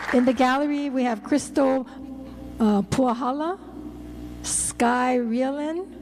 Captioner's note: applause